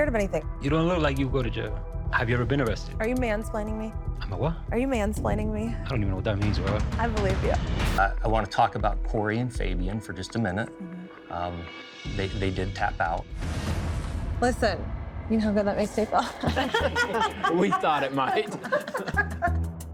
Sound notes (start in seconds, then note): 16.2 all laughing